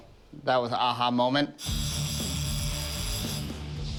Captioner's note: whirring